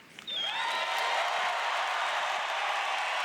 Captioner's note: cheers; applause